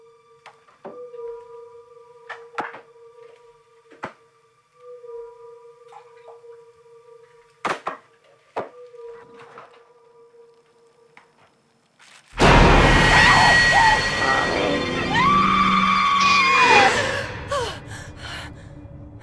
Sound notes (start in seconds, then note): 14.9 Samantha Screams; 17.0 gasps, Sighs